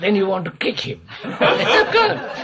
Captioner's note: laughter